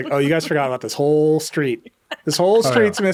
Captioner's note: laughing